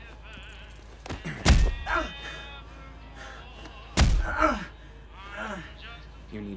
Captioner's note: grunting; thudding